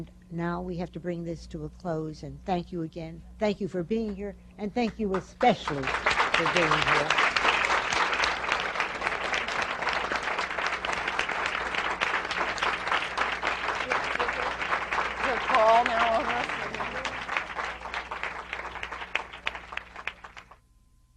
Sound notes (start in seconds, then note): 12.0 applause